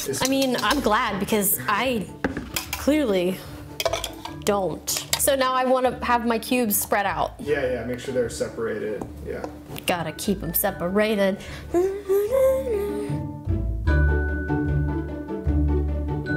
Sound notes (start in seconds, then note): 11.7 hums; 13.5 dramatic music